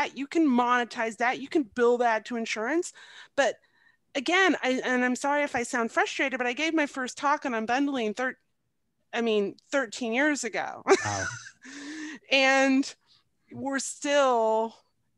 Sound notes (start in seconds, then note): 10.9 laughs